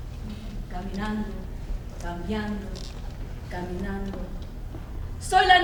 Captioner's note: speaks in foreign language